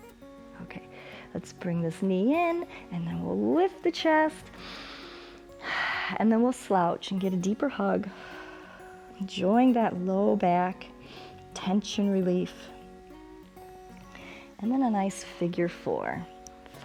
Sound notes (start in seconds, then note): 4.5 inhales and exhales; 8.0 exhales